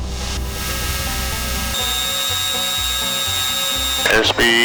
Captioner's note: machinery whirs